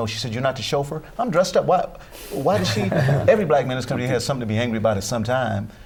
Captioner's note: laughter